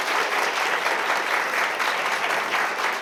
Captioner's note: applause